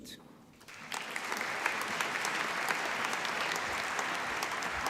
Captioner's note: applause